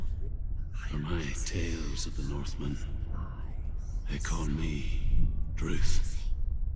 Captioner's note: whispering; whispering